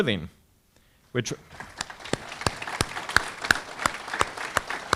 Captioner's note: audience clapping